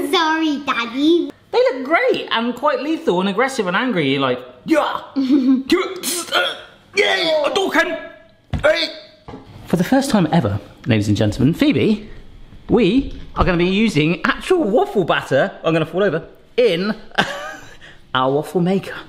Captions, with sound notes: - Sorry, daddy. - They look great, and quite lethal, and aggressive and angry, like, yuh! (grunts) For the first time ever, ladies and gentlemen, Phoebe, we are going to be using actual waffle batter, I'm gonna fall over, in our waffle maker.